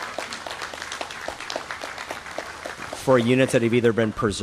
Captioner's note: applause